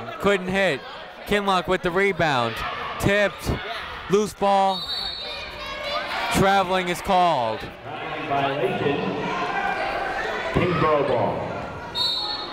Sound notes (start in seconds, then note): 4.7 whistle tweeting; 9.3 people shouting in the crowd